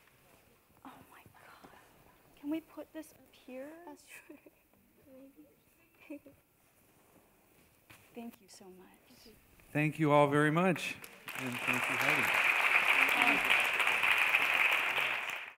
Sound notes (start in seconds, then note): 12.6 applause